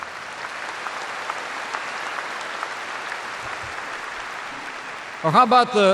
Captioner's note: applause